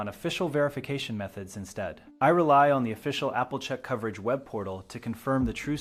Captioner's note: speak with a firm and serious tone